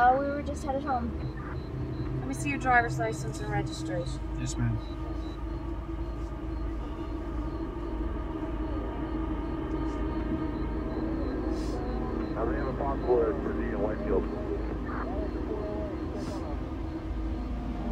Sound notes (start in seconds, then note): 6.7 eerie music; 12.6 faint police radio chattering